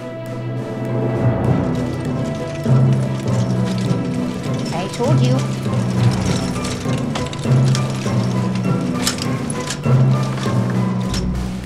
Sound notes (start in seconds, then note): 2.8 metal clanking; 7.3 metal clanking